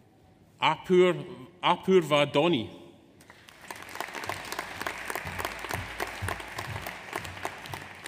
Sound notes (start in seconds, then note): 3.3 audience applauds